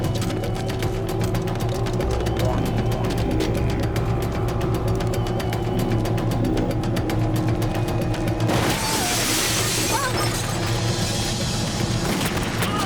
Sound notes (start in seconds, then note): 9.8 shrieking